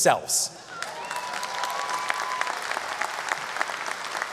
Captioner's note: audience applause